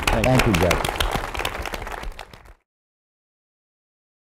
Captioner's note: group applause